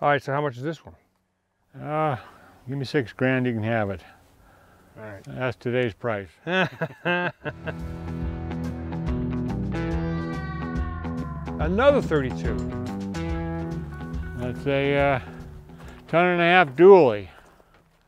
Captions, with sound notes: Alright, so how much is this one? - Ah, give me 6 grand, you can have it. - Alright. - That's today's price. (chuckling together) - Another 32? - I'd say ton and a half dual weight.